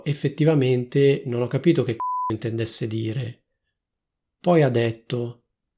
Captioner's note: beep